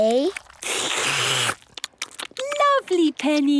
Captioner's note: all slurping